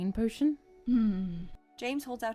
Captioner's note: James hums